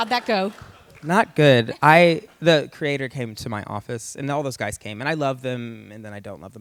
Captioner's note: laughter